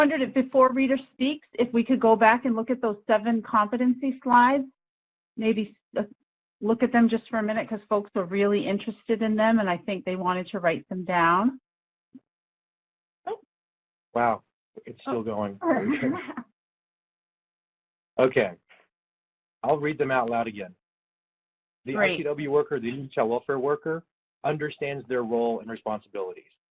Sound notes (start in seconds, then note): 15.6 laughs